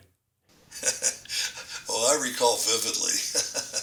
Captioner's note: laughs